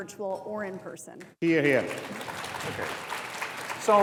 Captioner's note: audience applauds